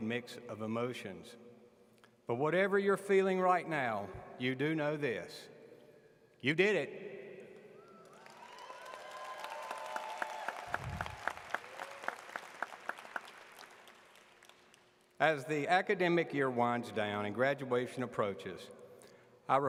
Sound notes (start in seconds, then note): 7.8 audience claps